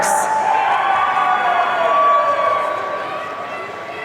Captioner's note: audience cheering